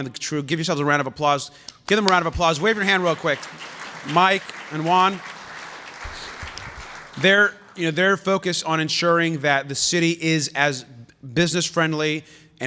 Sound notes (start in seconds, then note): 5.7 applause